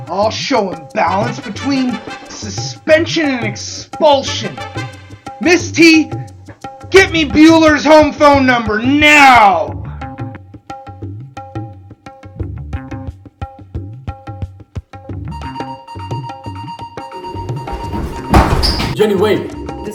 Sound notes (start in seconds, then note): 15.3 phone ringing